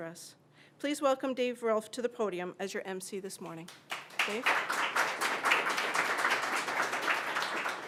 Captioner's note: applause